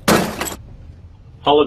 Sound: crash noise

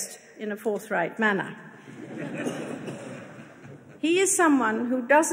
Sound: audience laughing

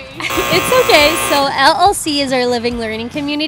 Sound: buzzer buzzing

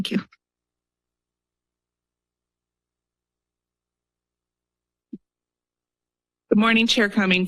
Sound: silence

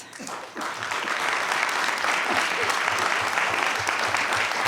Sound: attendees clapping

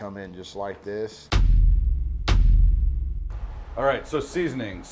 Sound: text thuds

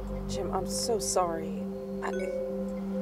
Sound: notification sound

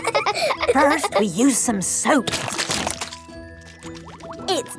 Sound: laughing; squirt! squirt!

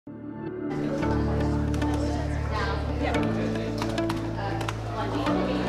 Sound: upbeat pop music; students talking

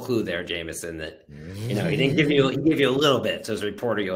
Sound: chuckles

